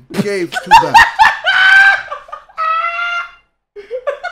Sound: laughs

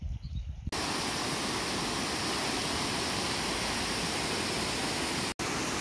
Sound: waterfall sounds

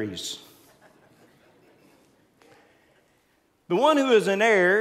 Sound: congregants laughing

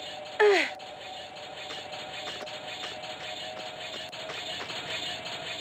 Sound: spinning blade wheels getting closer

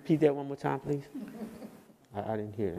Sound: people laugh

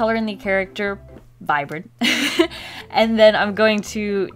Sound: laughs

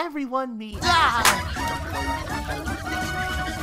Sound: excited clamoring

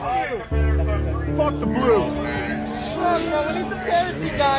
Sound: LRAD still calling for dispersal in the background

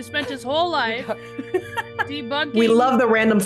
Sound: laugh

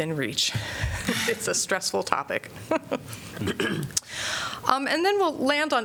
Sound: laughter

